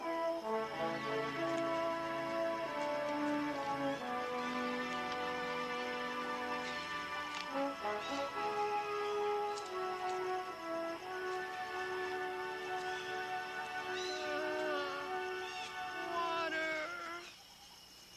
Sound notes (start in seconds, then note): 0.1 upbeat music; 14.1 Carrie groaning